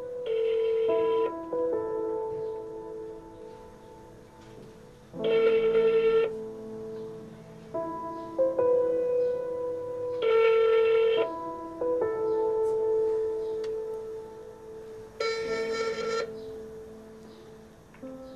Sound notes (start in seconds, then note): 0.3 waiting to answer beep; 5.2 waiting to answer beep; 10.3 waiting to answer beep; 15.2 waiting to answer beep